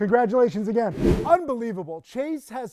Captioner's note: wind whooshing